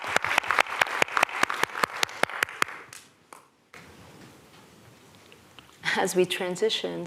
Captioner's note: applause